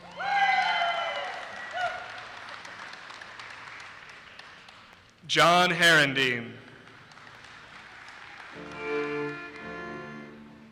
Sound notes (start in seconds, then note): 0.0 audience cheers and applauses; 6.7 audience applauses